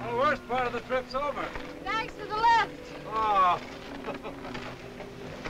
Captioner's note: laughs